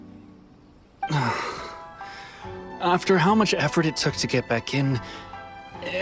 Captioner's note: sigh